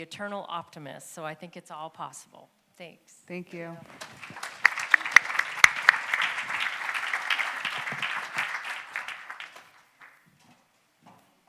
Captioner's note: applause